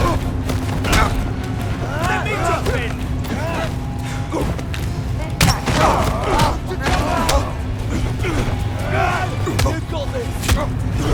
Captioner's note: screaming